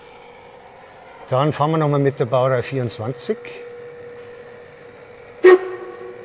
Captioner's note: short whistle